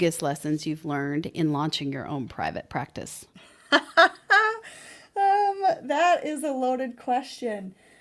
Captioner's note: laughing